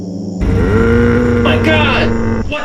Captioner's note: deep growls